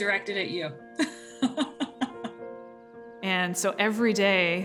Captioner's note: laughs